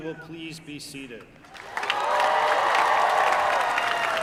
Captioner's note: applause